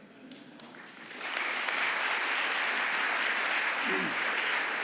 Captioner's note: audience applauding